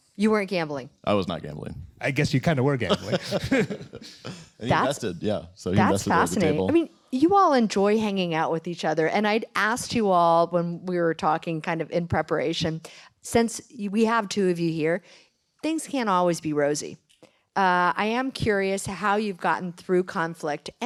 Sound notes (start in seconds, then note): 2.8 laughter